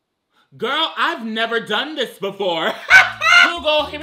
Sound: laughs

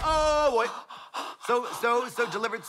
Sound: Trixie heaves and chuffs

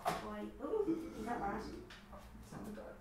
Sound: cracking; gasps

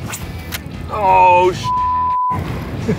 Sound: beep

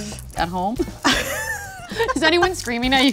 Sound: laughs

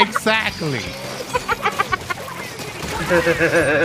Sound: chuckles; resume mimicking laughter; laughing

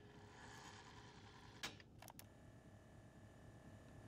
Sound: VCR whirs

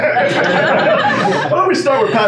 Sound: laughing

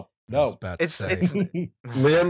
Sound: laughter

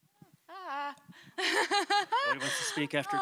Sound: laughs

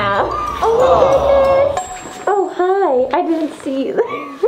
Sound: laughs

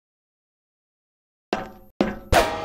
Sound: metal Footsteps

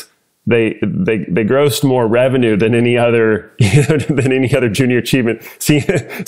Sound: laugh

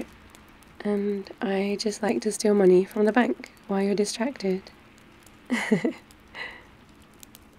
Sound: laughs

